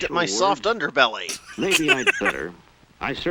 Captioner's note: busts out laughing